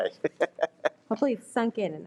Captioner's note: laughs